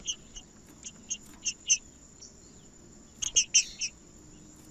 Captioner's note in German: trinca ferro cantando